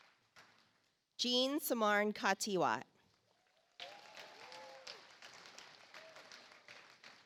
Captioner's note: audience applauds